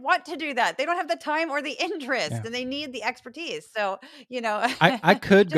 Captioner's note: laugh